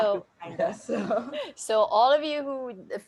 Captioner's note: laughing